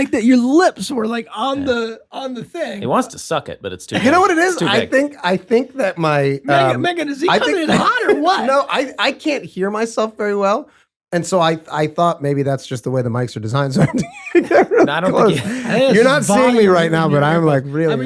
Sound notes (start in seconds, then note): 13.7 laughter